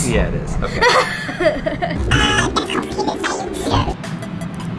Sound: laughing

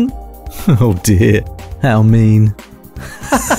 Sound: presenter and Customer laughing, nervously laughing; laughing

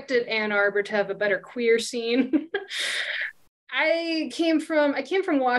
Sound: chuckles

